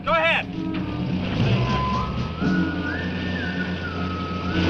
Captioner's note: engine revving